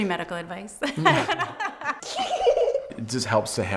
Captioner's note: laughs